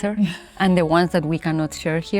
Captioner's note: Olivia laughing